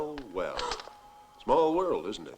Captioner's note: gasps